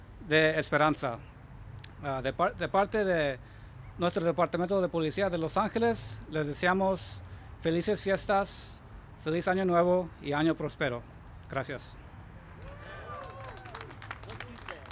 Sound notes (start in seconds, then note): 7.0 remarks in spanish; 12.6 applause